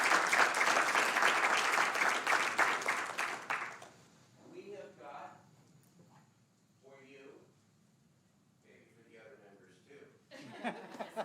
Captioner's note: applause